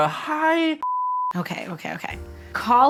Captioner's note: screen beeping